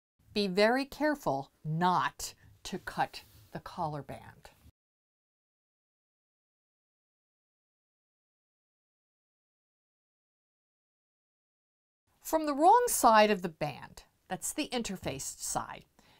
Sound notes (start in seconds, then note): 4.6 no Sound Present